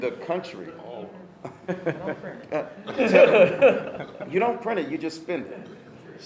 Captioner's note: laughter